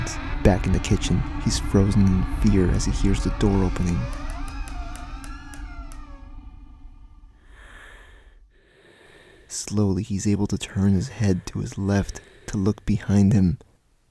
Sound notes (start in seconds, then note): 4.1 door creaking; 5.9 tense breathing